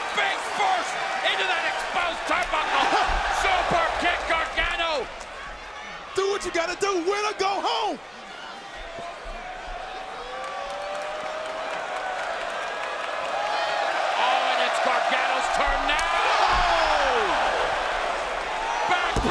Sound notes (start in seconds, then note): 8.9 crowd cheering